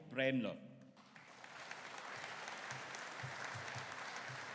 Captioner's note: audience applauding